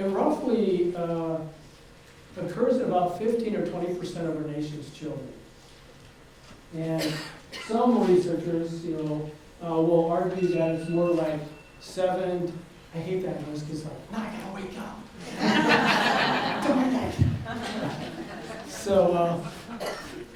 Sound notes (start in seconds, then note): 12.2 phone rings; 15.2 audience laughs